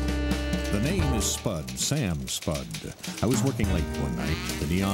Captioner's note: Spud typing